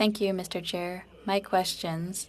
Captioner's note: speaking french